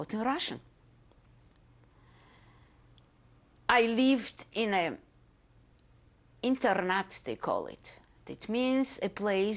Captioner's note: pauses for 3 seconds